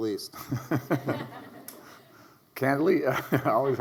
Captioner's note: Arne and audience laugh